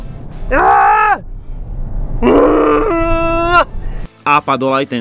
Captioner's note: angry noises